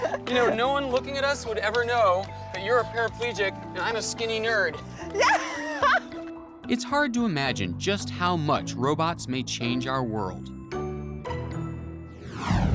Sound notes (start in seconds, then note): 5.0 laughing